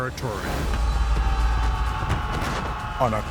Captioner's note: yelling